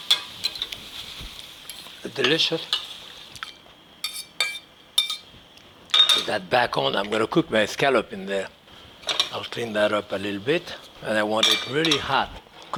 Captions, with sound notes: Delicious. (fork clanging) Put that back on. I'm gonna cook my scallop in there. I'll clean that up a little bit, and I want it really hot.